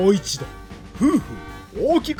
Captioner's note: blows